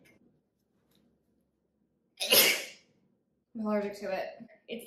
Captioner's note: sneezes